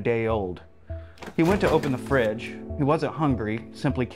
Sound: door opening

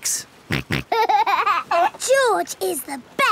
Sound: snorts and laughs

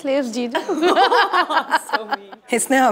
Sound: both laughing

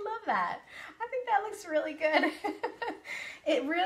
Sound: laughs

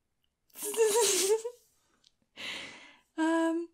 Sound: laughing

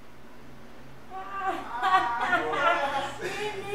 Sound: laughter

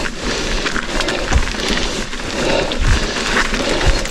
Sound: gasps

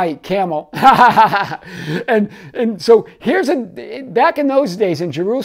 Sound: laughing

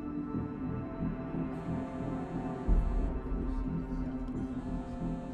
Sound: cellphone buzzes

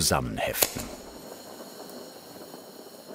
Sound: soft hissing

